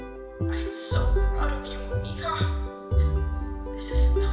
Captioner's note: voz emocionada en el televisor